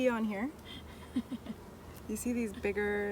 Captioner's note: laughter